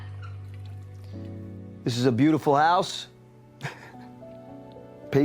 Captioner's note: chuckles